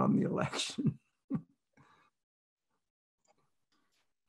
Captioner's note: chuckles